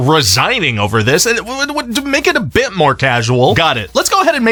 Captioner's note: stutters